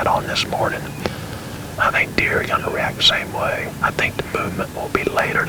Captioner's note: whispering